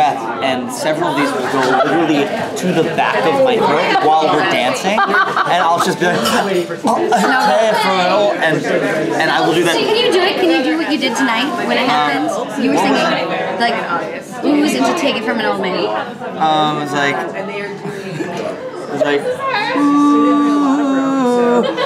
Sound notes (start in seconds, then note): 5.2 gags; 21.6 coughs